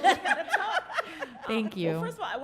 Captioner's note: laughing